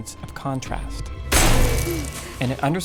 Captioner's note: clanging